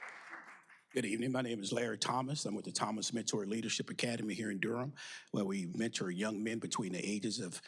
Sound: applause

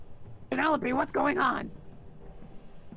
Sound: in Orkira voice

